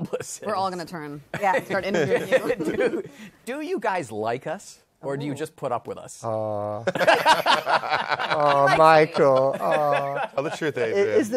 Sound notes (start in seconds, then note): 6.8 laughter